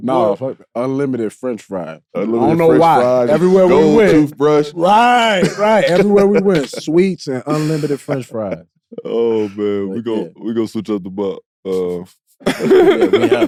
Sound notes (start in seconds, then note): 4.8 Caron laughs; 12.6 laughs